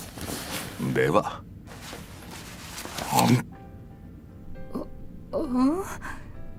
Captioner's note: Munch